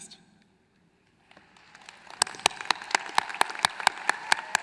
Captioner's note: applause